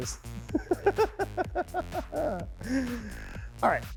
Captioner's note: chuckles